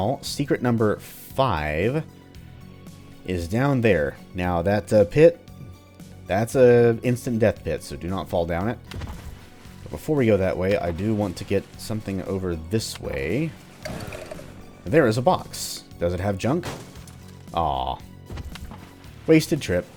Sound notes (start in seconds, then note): 8.5 splashes; 13.4 splash, Jackie revs